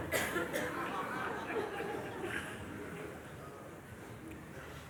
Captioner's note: laughter